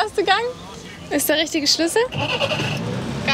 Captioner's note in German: Brummen